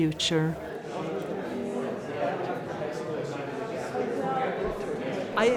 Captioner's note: people murmuring